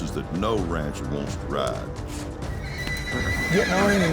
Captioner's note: horse whinnies